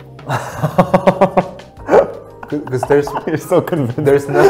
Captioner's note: laughs